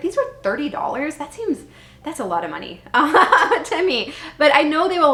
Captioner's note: laughing